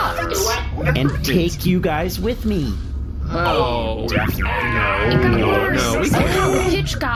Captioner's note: excited